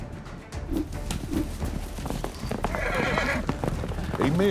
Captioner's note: rope swirling, horse whinnies